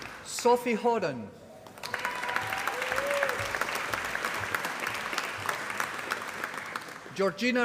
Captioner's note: applause